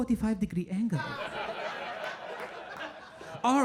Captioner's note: audience laughing